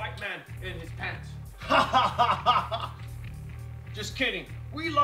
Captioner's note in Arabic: يضحك